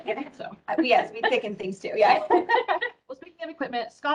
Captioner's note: all giggle